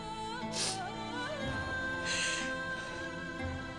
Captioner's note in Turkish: İlbilge ağlama sesi